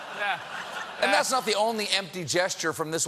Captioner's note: laughter